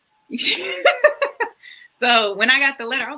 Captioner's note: laughs